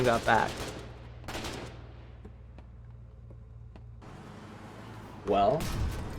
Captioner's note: gunfire